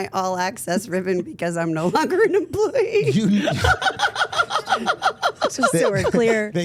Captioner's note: laughs